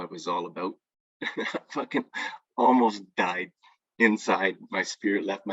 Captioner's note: laughs